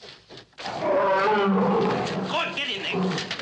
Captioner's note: gorilla roaring